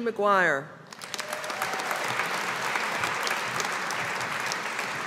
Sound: audience applauding

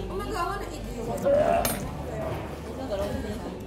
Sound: gags

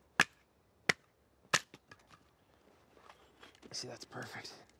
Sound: wood banging

